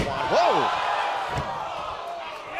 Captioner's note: crowd chatter